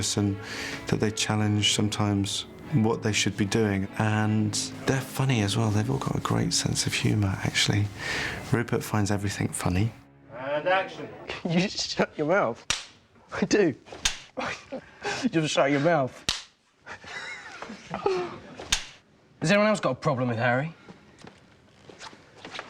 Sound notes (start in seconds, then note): 16.8 laughing